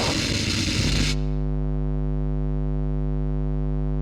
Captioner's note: static tone